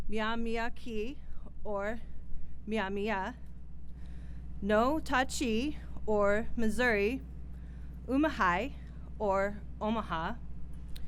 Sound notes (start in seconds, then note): none